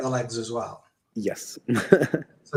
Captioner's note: laughs